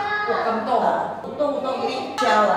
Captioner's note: Cantonese